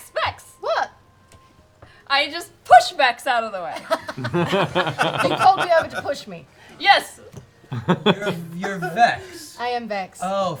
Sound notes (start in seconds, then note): 3.7 laughs